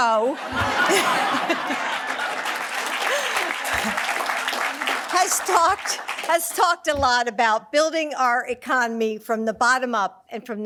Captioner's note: laughs